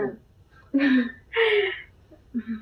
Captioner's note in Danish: klukker